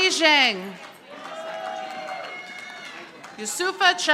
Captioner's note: audience applauding